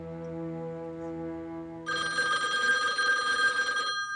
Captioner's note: ringing